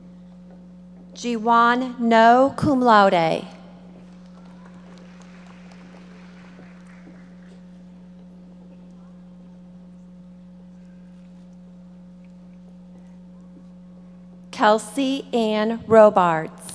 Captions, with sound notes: Jiwon Noh, cum laude. (audience applauding) Kelsey Ann Robards.